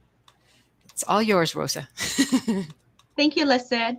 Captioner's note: laughs